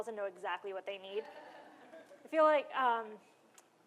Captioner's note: laughter